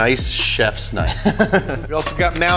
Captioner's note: laughs